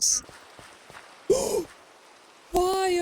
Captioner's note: gasp